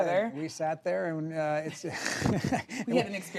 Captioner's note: laughs